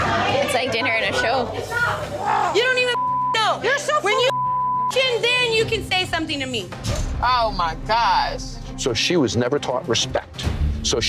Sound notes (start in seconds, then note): 4.2 beep